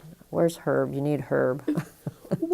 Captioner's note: chuckle